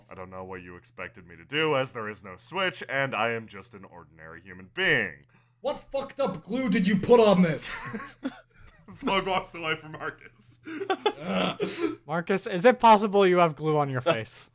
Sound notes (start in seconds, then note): 7.6 laughter